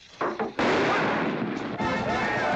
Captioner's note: fuse hissing; loud bang; western rodeo music; crowd cheering